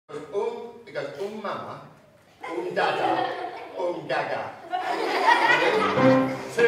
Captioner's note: laughter